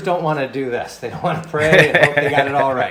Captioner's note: laughs